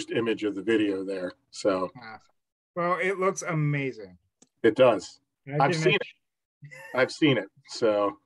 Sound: chuckles

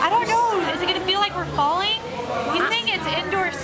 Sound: none

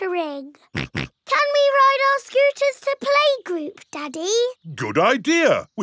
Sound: snorts

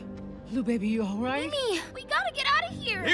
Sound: sighs

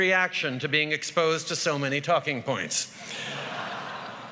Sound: laughter

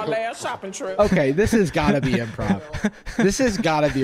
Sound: laughing

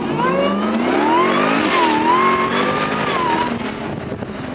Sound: car engine revs

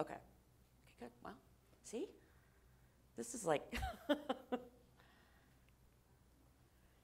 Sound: laughter

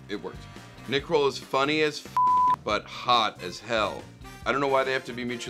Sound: beep

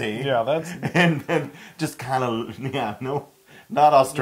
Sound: laugh

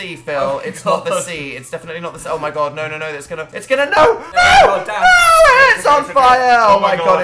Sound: laughs

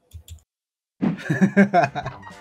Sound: laughs

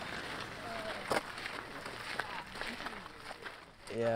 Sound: sound of footsteps on gravel

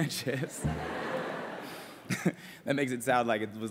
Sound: laughter

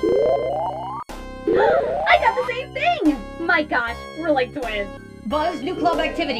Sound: happy gasp

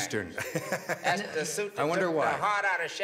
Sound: laughs

